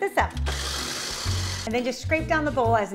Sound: machine whirs

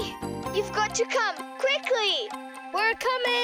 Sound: clock ticking

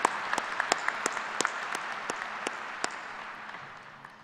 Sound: applause

